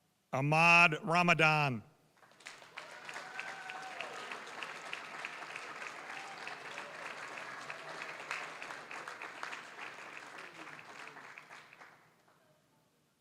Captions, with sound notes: Ahmad Ramadan. (applause, cheering) (applause)